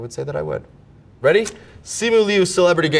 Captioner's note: paper rips